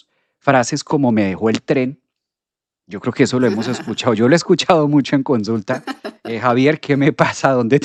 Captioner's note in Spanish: risas